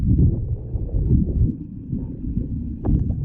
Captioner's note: underwater sounds